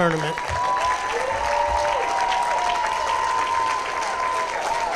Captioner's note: applause, cheering